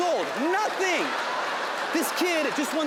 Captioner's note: audience laughing